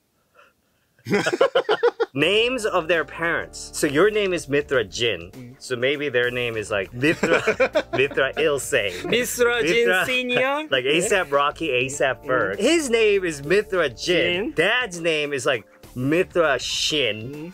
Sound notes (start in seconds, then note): 1.0 laughing; 7.1 laughs; 8.4 speaking in Korean